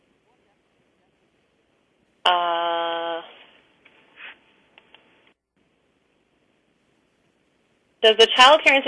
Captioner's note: pause